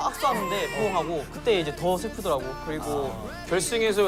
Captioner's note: burst crying